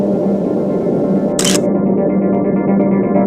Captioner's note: photo click